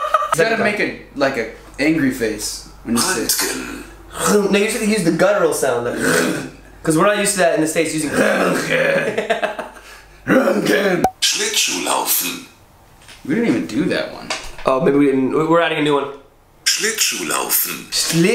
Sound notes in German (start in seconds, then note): 6.0 chrrrrrr